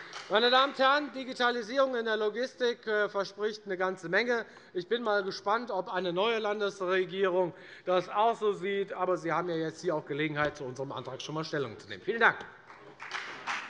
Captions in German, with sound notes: Meine Damen und Herren, der Einsatz der Digitalisierung in der Logistik verspricht eine ganze Menge. Ich bin gespannt, ob auch die neue Landesregierung das so sieht. Sie haben hier und heute Gelegenheit, schon einmal zu unserem Antrag Stellung zu nehmen. [Beifall bei der FDP] Vielen Dank.